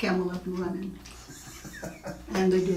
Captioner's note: laughing